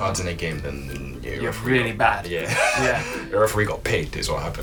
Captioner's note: laughter